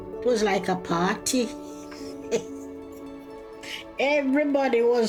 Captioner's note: chuckling